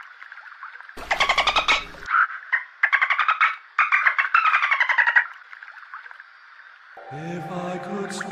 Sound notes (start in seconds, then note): 1.0 dolphin Mating Call